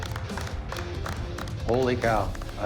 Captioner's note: applause